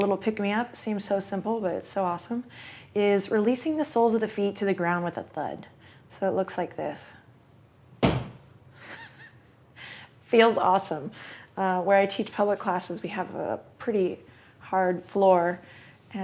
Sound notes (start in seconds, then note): 8.0 thud